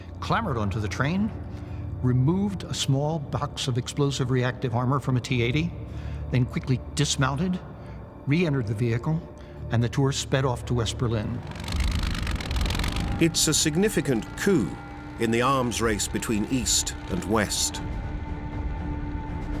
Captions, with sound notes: clambered onto the train, removed a small box of explosive reactive armor from a T-80, then quickly dismounted, re-entered the vehicle and the tour sped off to West Berlin. [engine rumbles] It‘s a significant coup in the arms race between East and West.